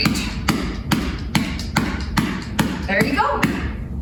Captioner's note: massage tool clapping